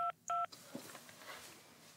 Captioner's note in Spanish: sonido al marcar